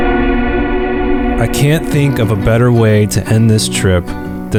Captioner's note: voiceover